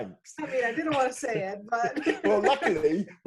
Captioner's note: laughing